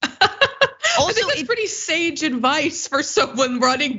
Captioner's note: laugh